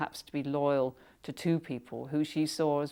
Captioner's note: none